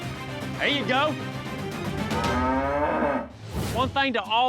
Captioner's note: mooing